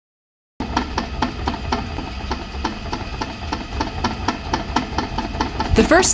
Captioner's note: machine Noise - rotating sound